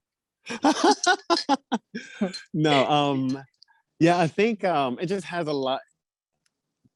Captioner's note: laughs